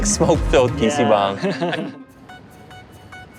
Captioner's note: chuckles